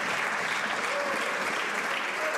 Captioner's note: some Applause